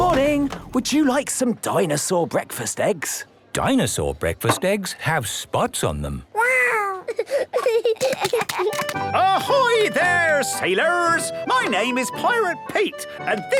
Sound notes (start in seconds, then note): 6.8 giggling